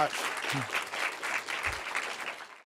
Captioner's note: applause